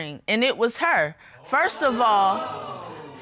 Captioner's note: audience exclaims